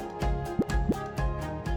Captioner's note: graphic pops